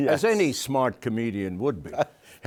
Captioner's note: chuckles